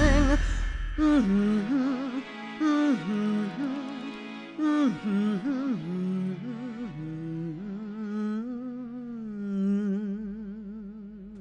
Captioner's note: Yellow Diamond humming